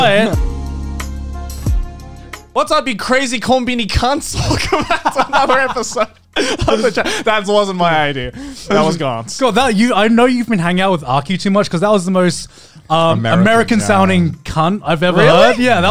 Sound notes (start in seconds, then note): 0.1 groovy music; 6.4 laughing